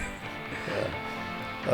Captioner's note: laughing